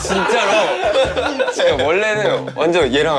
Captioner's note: heheh